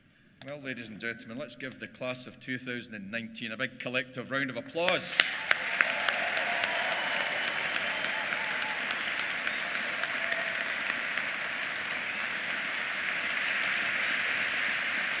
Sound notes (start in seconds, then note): 7.2 applause